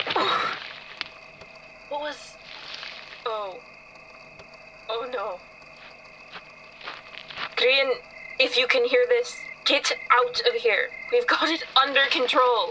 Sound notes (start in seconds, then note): 0.0 running footsteps on soft dirt. Someone trips, landing with an 'oof'; 2.4 rustling leaves; 6.7 footsteps, rustling